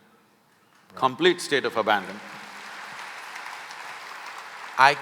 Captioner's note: applause